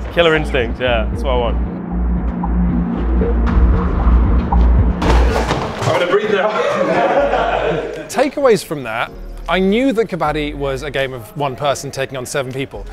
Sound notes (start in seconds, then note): 2.2 dramatic music; 6.3 laughter